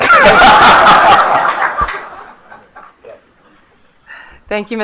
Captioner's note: attendees laughing